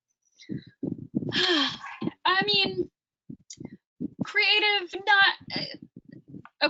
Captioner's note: sighs